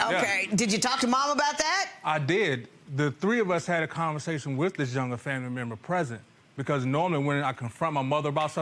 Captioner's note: none